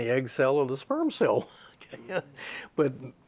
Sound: laughs

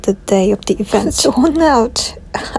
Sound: laughs

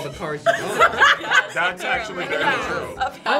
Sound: laughs

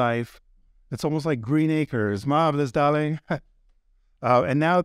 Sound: chuckles

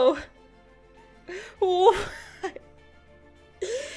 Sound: laughs

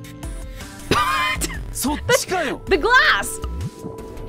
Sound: chuckles

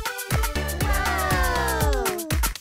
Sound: cheering

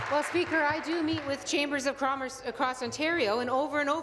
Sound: applause

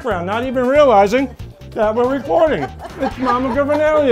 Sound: laughter

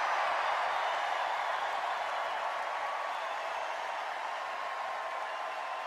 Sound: extended cheers and applause

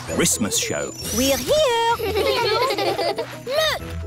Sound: children giggling

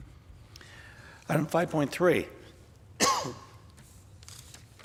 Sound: coughs

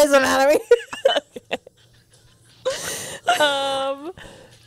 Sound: panel laughing

